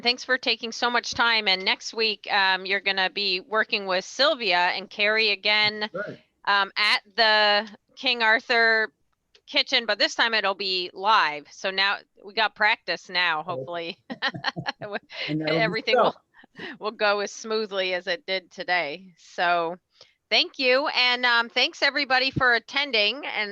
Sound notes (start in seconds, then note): 13.4 laughing